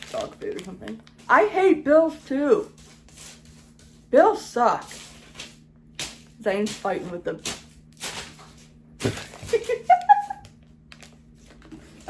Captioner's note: laughs